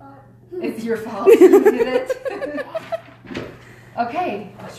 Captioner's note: laughing